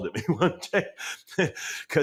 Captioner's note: laughs